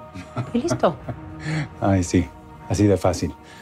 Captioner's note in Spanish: Risas